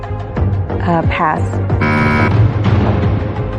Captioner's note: buzzer sounds